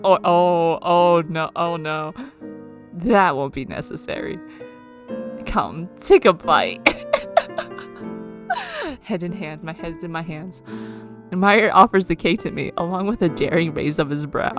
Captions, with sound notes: Ohhh, oh n- oh no. [laughs] [breathes in] Head in hands. My head's in my hands.